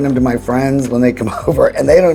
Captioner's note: chuckling